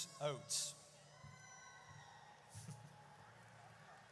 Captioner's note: audience cheers